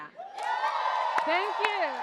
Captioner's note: audience cheers